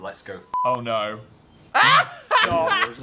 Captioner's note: Dan laughs